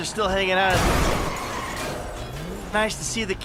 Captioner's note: car crash